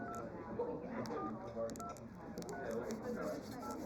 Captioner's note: phone dialing